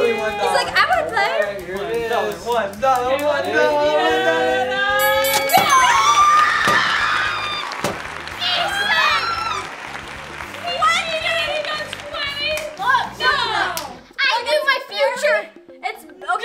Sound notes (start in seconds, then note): 4.9 winning music; 8.0 excited shouting and cheers